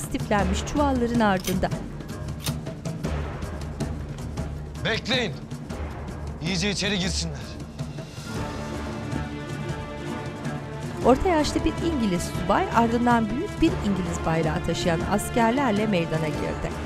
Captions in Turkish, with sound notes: (Silah mekanizma sesi) Bekleyin. İyice içeriye girsinler. (Müzik - Gerilim)